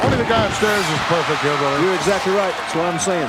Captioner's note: audience cheering